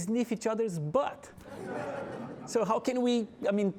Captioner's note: audience laughing